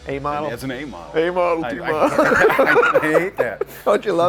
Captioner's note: guy laughs